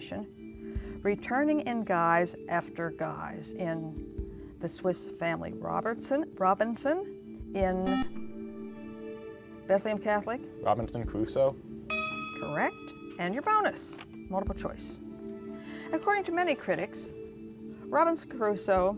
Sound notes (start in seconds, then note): 7.8 buzzer